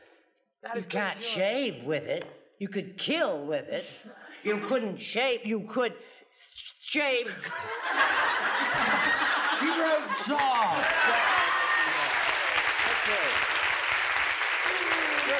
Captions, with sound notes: -You can't shave with it. You could kill with it. You couldn't shave. You could shave... (laughter) -She wrote saw. -Saw. Okay. (applause)